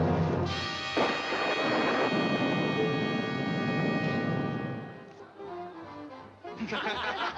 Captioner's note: thunder cracking; dramatic music continues; people laughing